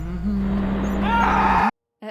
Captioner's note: Stewart humming